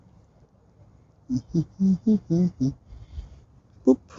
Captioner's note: humming